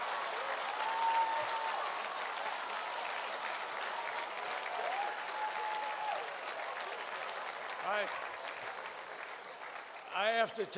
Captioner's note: laughter and applause